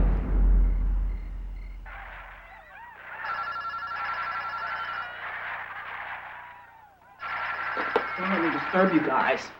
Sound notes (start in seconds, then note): 3.2 telephone rings